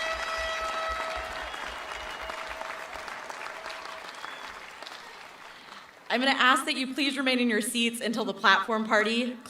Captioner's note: cheering and applause